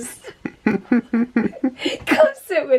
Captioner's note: both chuckling